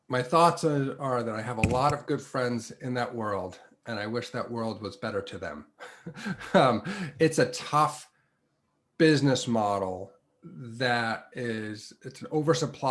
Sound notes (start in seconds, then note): 5.8 laugh